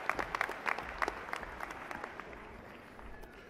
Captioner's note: applause